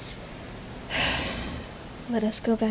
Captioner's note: sigh